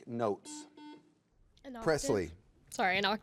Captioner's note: buzzer beeps